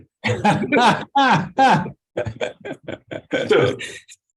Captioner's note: laughter